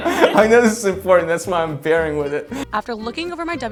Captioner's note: laughing